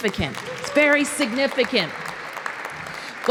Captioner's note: applause